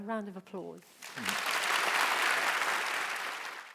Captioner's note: applause